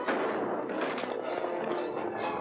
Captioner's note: crack; dramatic music